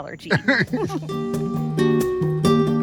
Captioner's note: laughing; bright music